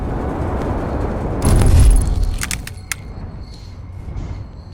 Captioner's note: aircraft bumps